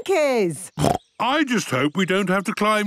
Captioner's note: snorts